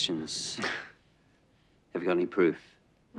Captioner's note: James laughs